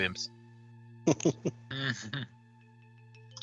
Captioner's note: sniggering